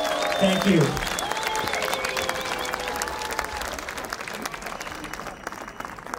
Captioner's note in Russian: аплодисменты